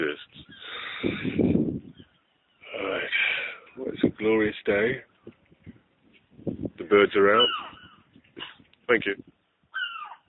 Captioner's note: bird Call